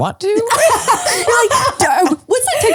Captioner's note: laughs